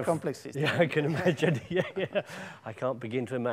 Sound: laughs

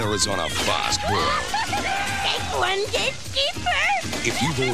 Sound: cackles

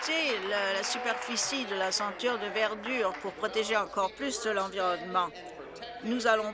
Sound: applause

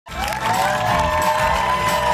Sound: cheers and applause

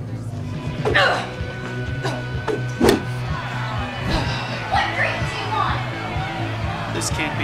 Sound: crowd chaos builds

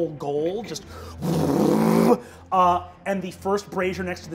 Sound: whirring magic

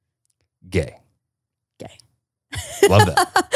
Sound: laughs

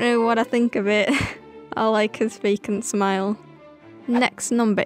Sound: laughs

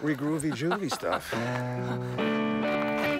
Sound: Owen laughing; mellow guitar music; footsteps crunching

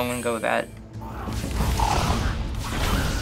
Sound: in game: creatures snarl

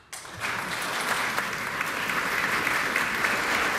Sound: applause

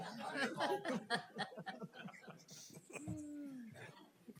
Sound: group laughing

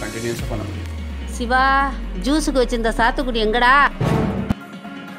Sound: mom Voice

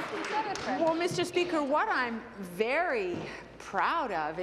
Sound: applause

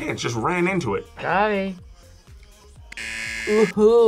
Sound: buzzer

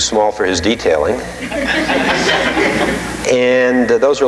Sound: audience laughing

